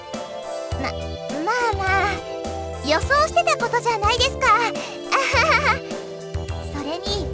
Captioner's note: awkward laugh